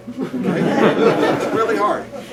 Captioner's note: laughter